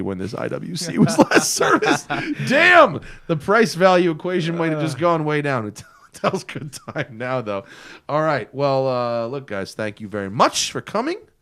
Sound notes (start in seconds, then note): 2.4 laughter